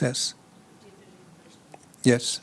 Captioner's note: speaks faintly